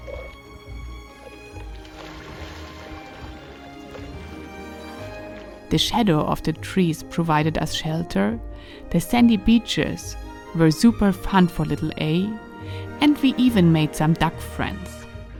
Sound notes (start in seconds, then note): 0.1 upbeat music; 2.8 water splashing